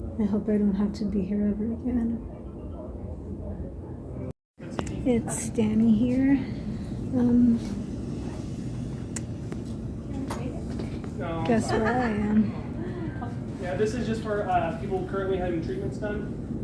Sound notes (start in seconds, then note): 7.8 tongue click; 11.3 laughter in background